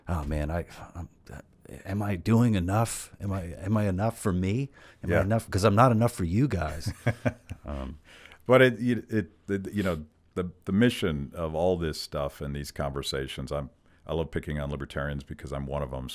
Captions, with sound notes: oh man, am I doing enough? Am I enough for me? 'cause I'm not enough for you guys. - (laughs) The mission of all this stuff and these conversations, I love picking on libertarians because I'm one of them